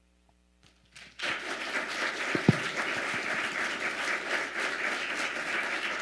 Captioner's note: audience applauding